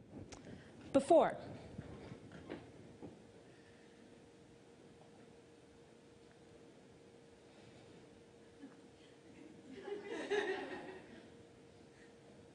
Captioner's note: silence